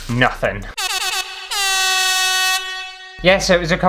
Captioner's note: air Horn